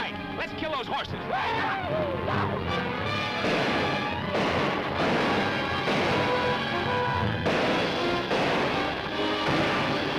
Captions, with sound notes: All right, let's kill those horses! (men whooping) (guns firing)